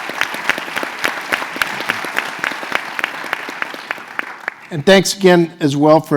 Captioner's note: applause